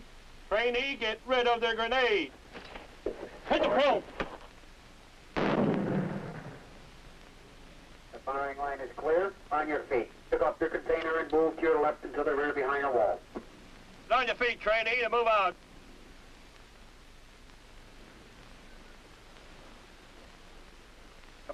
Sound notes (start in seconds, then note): 5.3 explosion; 7.3 voice over radio